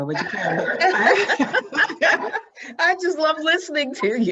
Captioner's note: both laughing